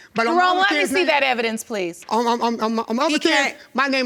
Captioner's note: stammering